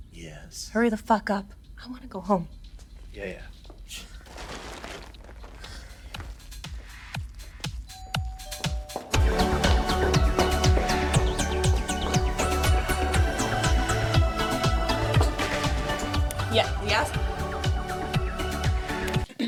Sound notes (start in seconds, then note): 2.4 scoffs; 7.9 doorbell rings; 9.3 moody electronic dance music